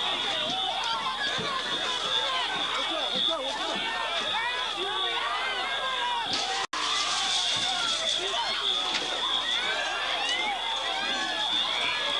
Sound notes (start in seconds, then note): 6.0 crowd screaming; 6.8 alarm blaring